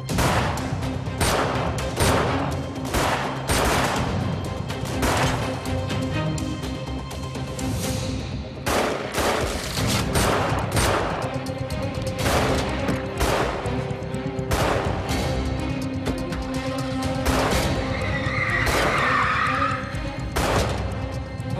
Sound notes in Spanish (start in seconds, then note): 0.0 Disparos; 8.6 Disparos; 17.6 Chirrido de llantas